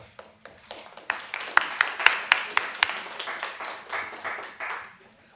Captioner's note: applause